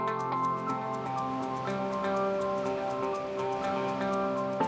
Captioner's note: water rushing